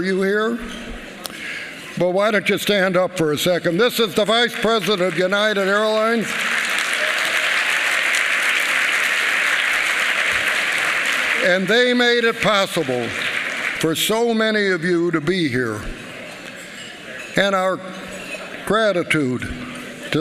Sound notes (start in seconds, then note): 8.5 applause